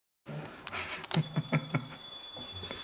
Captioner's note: laugh